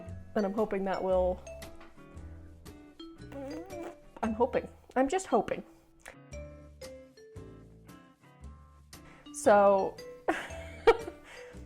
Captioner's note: fart noise; laughing